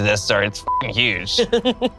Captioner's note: beep; laughs